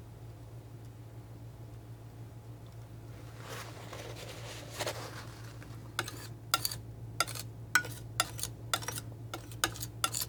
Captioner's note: tapping; tapping